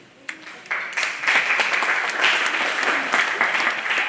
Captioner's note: applause